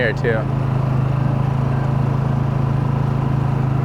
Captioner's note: motor burbling